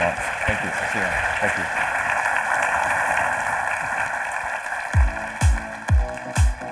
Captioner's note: audience applauding